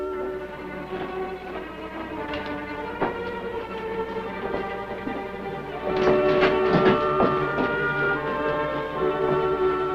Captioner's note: footsteps